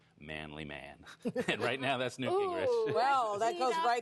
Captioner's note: laughter